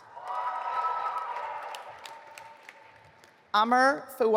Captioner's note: audience applauding